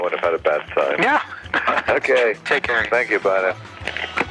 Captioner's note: laughs; phone hanging up